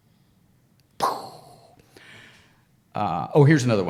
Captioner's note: imitates explosion